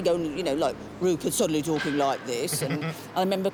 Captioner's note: in deep voice; in normal voice